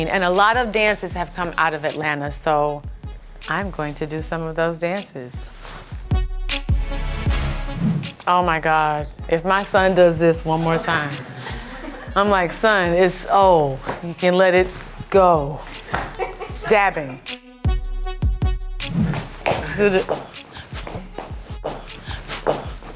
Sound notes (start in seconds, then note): 11.0 crew laughs; 20.6 shoes tap